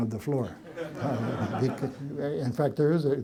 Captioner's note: laughter